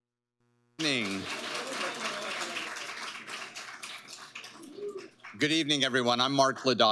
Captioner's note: audience applauding